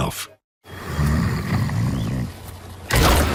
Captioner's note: snoring